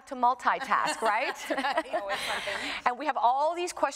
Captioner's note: laughs